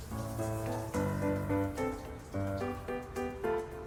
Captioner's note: shower stops